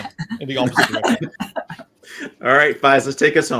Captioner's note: panelists laughing